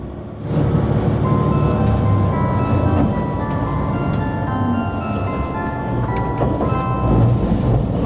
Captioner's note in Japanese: jr四国チャイムが鳴っています